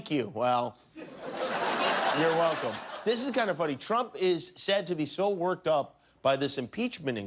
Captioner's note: laughter